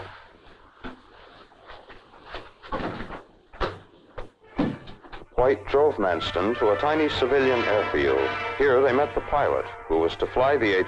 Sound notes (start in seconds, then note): 2.4 door clicking; 2.4 hand patting; 6.1 tense orchestral music